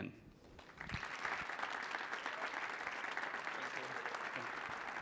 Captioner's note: audience applauding